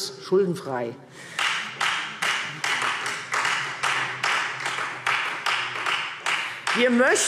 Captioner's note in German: Beifall Freie Demokraten